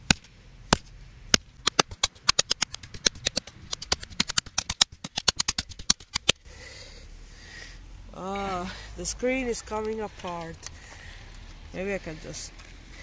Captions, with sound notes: *intense Hammering* oh, the screen is coming apart Maybe i can just...